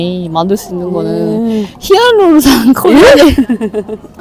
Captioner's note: laughs